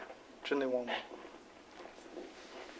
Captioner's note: non-english speech